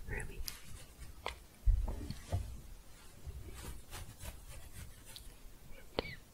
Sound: scratching

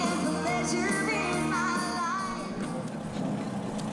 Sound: motors purring

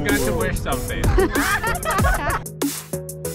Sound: laughs

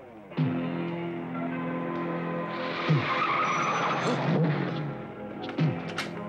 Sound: dramatic music; wheels screech

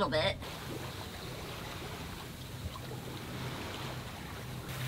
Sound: water jostling

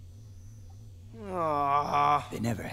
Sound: groaning

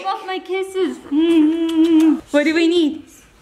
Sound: makes kissing sounds

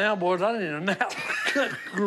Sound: laughs

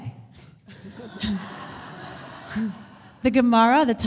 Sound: audience laughter

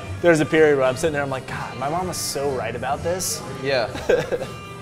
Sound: laughs

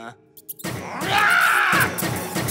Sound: squeaking; shooting; shouts

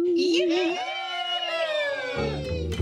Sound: all cheer

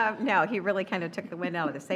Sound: laughter

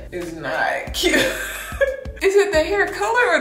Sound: laughing

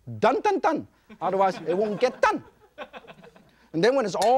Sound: audience laughs

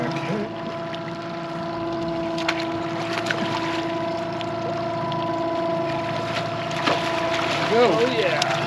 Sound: fish splashing

